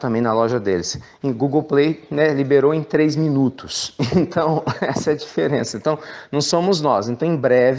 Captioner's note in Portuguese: risos